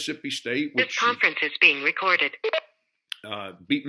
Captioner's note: recorded Voice